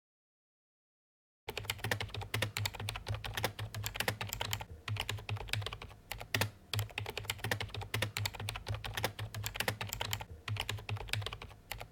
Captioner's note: typing